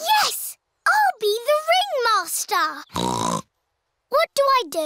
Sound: snorts

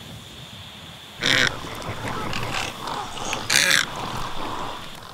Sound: great egret croak

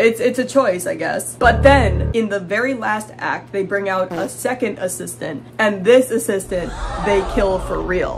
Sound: ominous piano; fart; crowd gasps

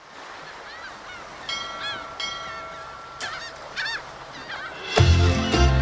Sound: ocean sounds

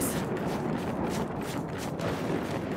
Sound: wind howling

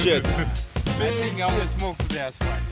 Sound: dink

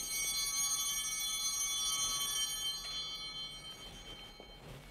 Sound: chimes ringing

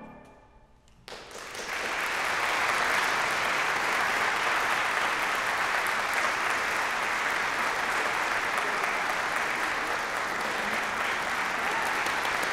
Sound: applause

